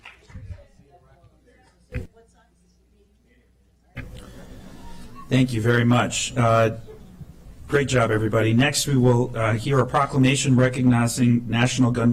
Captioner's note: clapping